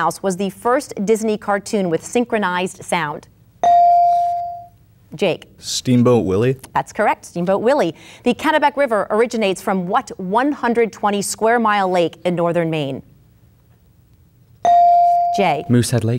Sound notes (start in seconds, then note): 3.6 bell dinging; 14.6 bell dinging